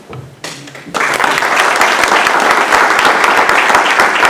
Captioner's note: applause